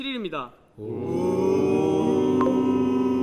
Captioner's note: oohhhhh